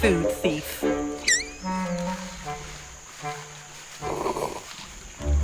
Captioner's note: Yoko squeaks